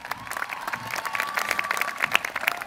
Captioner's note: applause